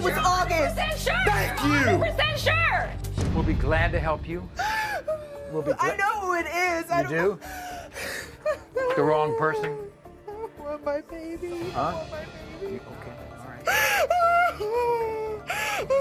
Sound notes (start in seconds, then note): 4.6 sobs